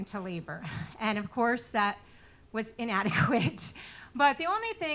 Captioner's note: laughing